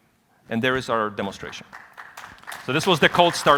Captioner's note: applause